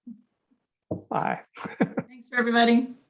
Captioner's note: chuckling